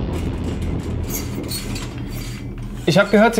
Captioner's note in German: Spannende Musik; Quietschen